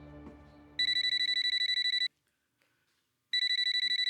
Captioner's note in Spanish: Suena el celular